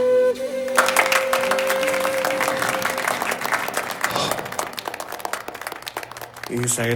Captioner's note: applause